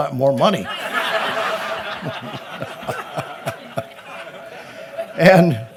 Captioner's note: laughter